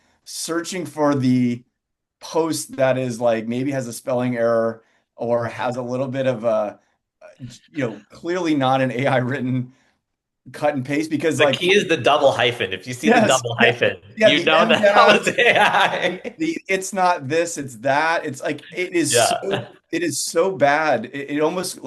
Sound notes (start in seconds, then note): 15.9 laughs